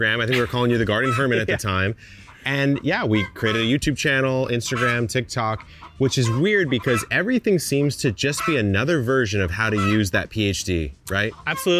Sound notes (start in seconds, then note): 0.1 laughing